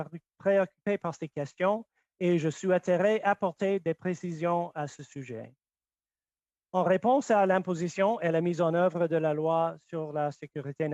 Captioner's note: speaking French